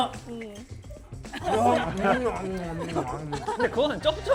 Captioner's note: nom nom